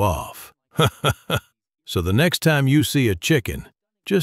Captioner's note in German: Lacht